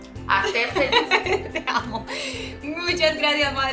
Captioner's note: laughs